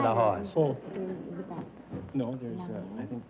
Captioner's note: whispering